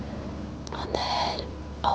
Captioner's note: whispering